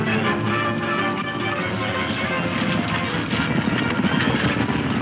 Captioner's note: hooves thundering